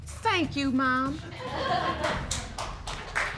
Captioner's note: audience applaud